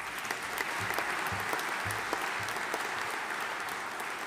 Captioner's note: audience applauding